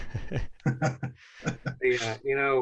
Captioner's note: laughter